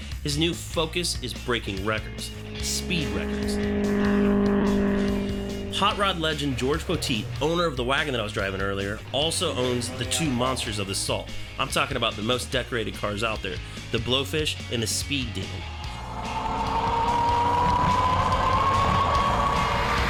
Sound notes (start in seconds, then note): 7.2 car engine roaring; 15.7 plane engine roaring